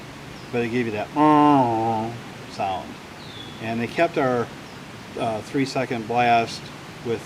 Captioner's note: mimics a lighthouse horn